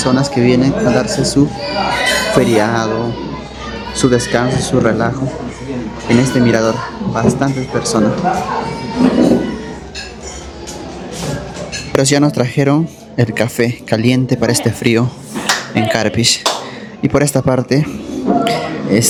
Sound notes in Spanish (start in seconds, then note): 15.4 aplausos